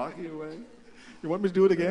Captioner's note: laughter